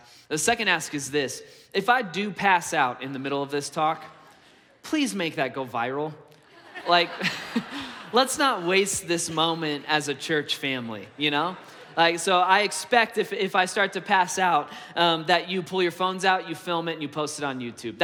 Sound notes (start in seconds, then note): 6.4 congregation laughs